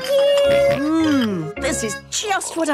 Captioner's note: snorts